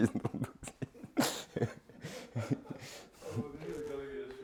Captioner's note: laughter